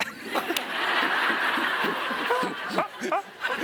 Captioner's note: audience laughs